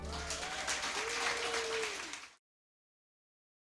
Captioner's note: crowd claps